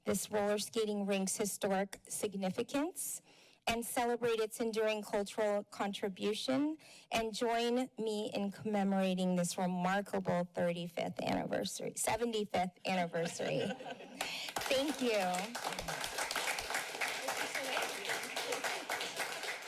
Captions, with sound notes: this roller skating rinks historic significance and celebrate its enduring cultural contribution. And join me in commemorating this remarkable 35th anniversary... 75th anniversary. [laughter] Thank you. [Applause]